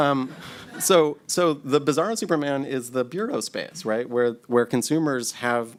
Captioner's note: laughter